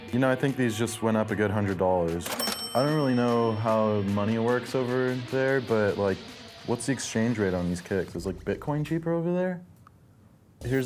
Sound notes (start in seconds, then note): 2.2 cash register chimes